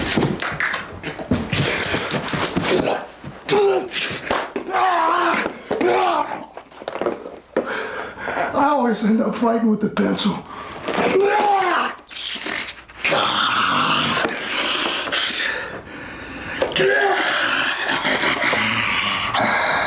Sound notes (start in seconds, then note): 0.0 body thudding; 0.0 footsteps plodding; 4.8 pencil thudding; 5.8 Flyin' Brian grunting; 7.6 breathing deeply; 11.6 laughs; 13.0 Flyin' Brian grunting